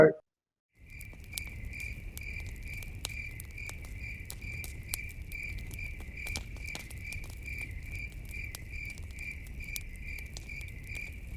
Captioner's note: crickets and campfire sounds